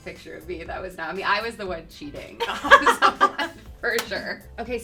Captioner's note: laughing